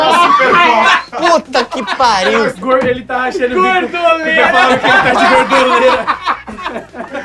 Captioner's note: risos